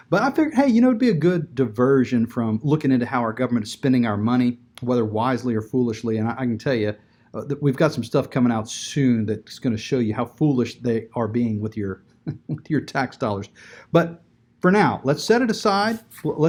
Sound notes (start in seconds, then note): 12.2 chuckles